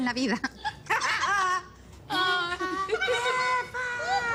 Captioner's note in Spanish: Exclamaciones; Risas